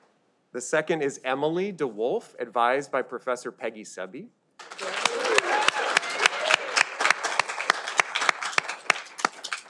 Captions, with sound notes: The second is Emily DeWolf advised by professor Peggy Cebe. (audience applauding)